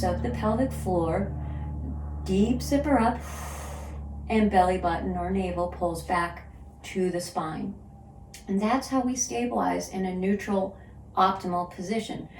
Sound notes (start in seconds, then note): 3.2 exhales